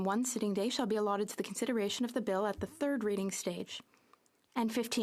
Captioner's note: speaking French